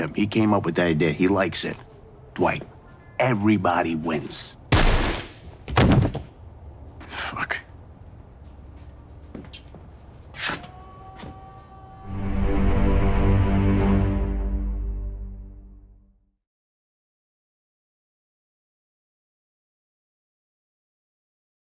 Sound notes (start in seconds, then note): 4.7 gun popping; 5.6 body thudding; 8.3 footsteps shuffling; 12.2 deep string music